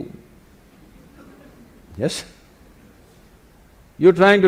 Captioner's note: laughs